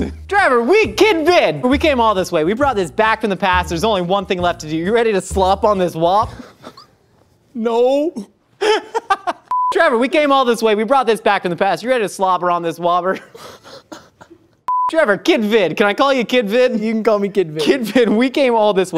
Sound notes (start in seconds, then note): 6.2 laughs; 8.6 laughs; 9.5 beep; 13.1 laughs; 14.6 beep